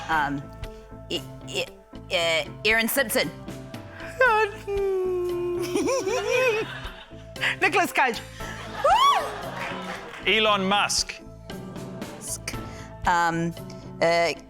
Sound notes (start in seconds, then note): 4.4 sighs; 9.5 scattered applause